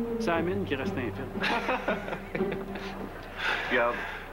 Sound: Rires

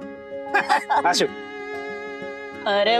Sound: chuckling

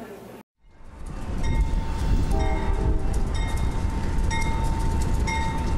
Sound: train engine chugs

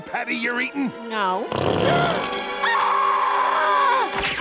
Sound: gasps and screams

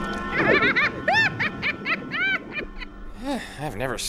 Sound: witch cackling

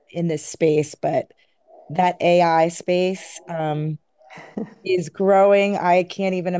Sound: chuckles

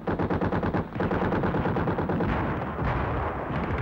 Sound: guns firing

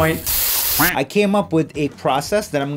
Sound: spraying noise

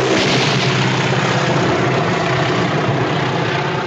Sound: guns firing

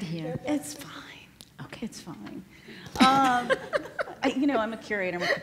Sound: whispers; laughs

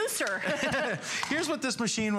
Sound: laughter

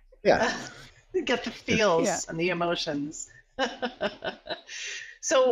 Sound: laughs

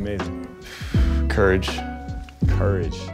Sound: exhales

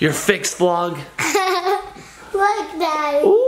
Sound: laughs

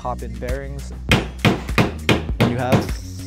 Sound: hammer pounding

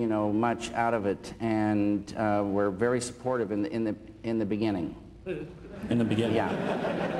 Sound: laughter

